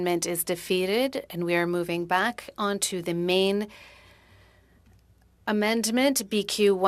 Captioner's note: speaking French